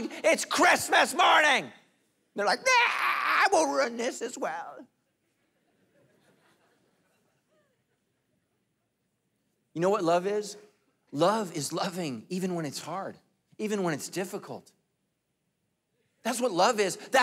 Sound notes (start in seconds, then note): 5.1 congregation laughing